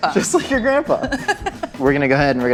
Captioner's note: laughter